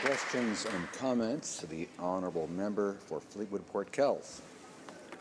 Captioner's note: some Applause